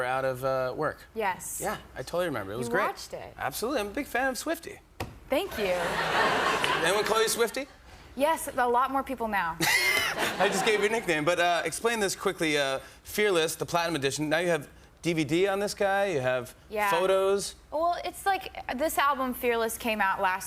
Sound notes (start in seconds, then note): 5.6 laughter